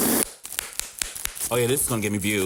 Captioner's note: blows raspberry; bubble wrap popping